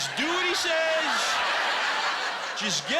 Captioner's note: laughter